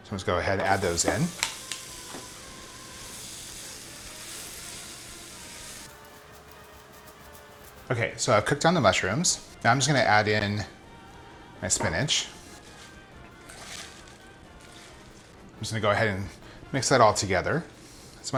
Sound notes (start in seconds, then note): 0.6 mushrooms sizzling